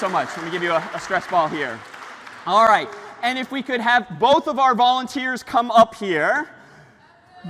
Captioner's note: ปรบมือ